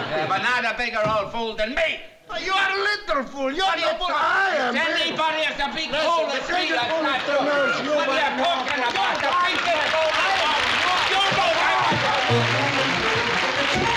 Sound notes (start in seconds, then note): 6.7 arguing